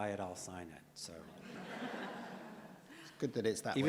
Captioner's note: audience laughs